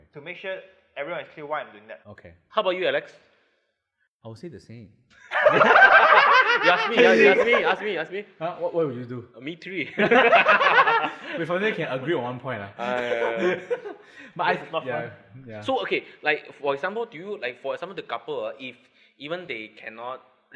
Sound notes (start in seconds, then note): 5.2 laughs; 10.0 laughs